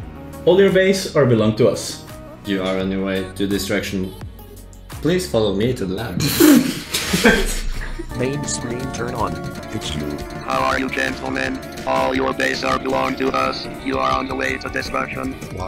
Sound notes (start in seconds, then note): 6.2 laughter